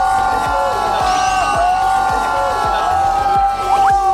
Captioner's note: burst of admiration